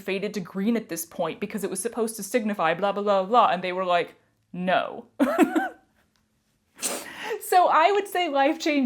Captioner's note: laughter